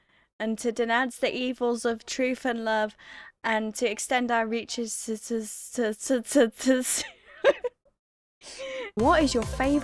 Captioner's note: bursts out laughing